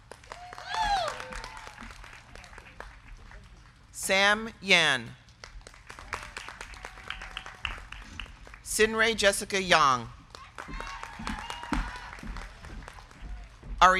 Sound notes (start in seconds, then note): 0.0 crowd clapping; 0.0 crowd cheering; 5.2 crowd clapping; 10.3 crowd cheering; 10.5 crowd clapping